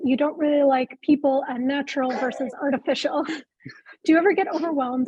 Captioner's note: chuckling